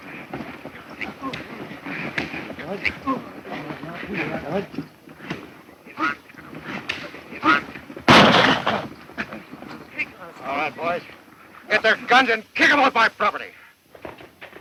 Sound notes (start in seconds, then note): 8.0 gun fires